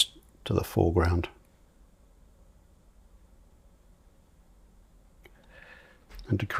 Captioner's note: silence